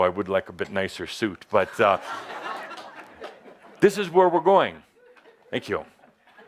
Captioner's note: laughter